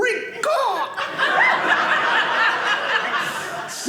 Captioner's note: audience laughing